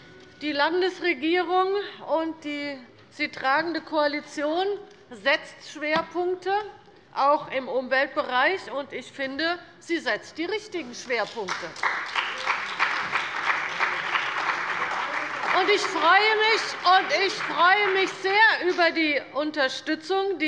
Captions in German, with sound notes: Die Landesregierung und die sie tragenden Koalitionen setzen Schwerpunkte, auch im Umweltbereich. Ich finde, wir setzen die richtigen Schwerpunkte. [Beifall bei der CDU und dem BÜNDNIS 90/DIE GRÜNEN] Ich freue mich sehr über die Unterstützung,